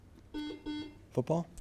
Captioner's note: buzzer beeps